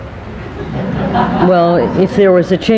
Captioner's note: people laughing